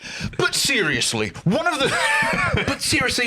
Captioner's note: laughs